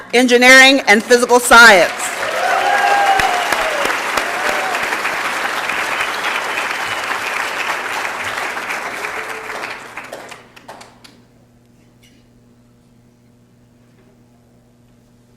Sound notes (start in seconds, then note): 2.9 applause and Cheering